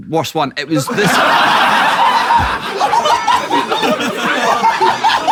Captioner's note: people in room laughing